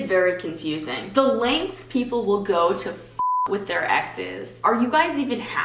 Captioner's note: beep